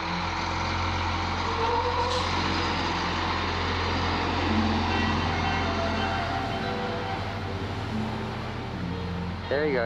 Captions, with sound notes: (bus humming) There you go,